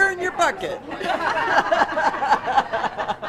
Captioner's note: laughter